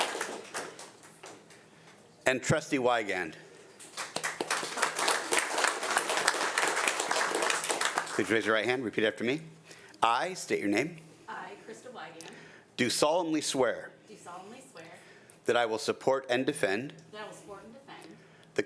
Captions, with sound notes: - And Trustee Weigand. (audience applauding) Could you raise your right hand? Repeat after me. I, state your name. - I Krista Weigand. - Do solemnly swear. - Do solemnly swear. - That I will support and defend. - Thou will support and defend.